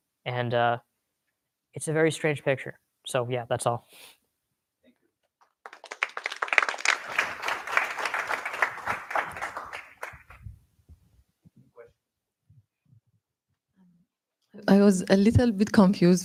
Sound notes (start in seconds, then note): 5.4 applause